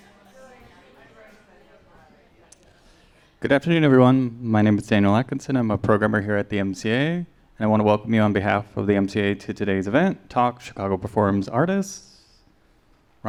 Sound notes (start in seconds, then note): 0.0 people chattering